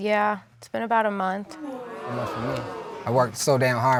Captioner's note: audience exclaiming